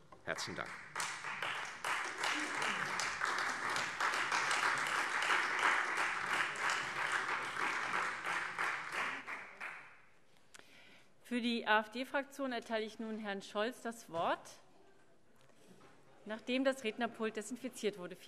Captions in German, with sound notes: - Herzlichen Dank. [Beifall Freie Demokraten und vereinzelt SPD] Für die AfD-Fraktion erteile ich nun Herrn Scholz das Wort. - Zuvor wird aber noch das Rednerpult desinfiziert.